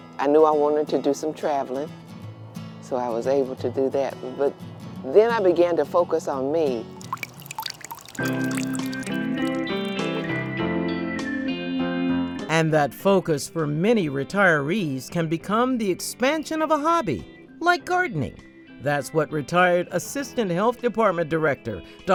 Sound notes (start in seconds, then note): 6.7 gentle music; 6.8 water trickling